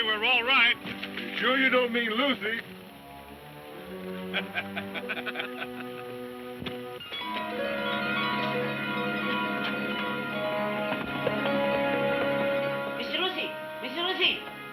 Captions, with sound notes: - Are you sure you don't mean Lucy? (men laughing) (bright music) - Miss Lucy, Miss Lucy!